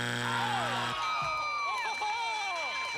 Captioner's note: bell dinging